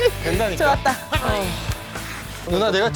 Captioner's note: just sighing